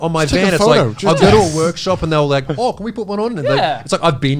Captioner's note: imitates peeling